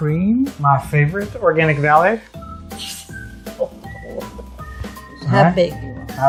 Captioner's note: laughs